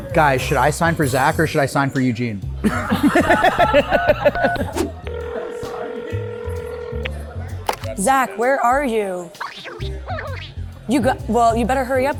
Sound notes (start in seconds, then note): 2.6 laughter; 5.0 phone dials and rings; 9.3 playful gibberish